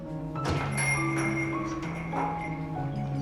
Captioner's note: doorbell jingling